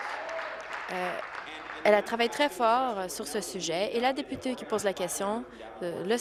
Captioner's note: applause